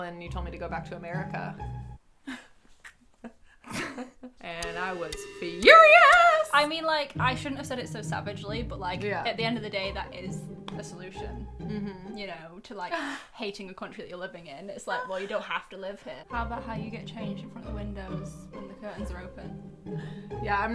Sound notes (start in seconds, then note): 2.6 music stops; 3.6 laughing; 11.6 laughing